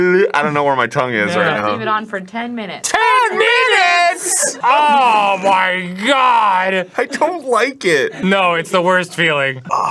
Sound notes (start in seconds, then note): 2.9 both, yelling with the utmost audacity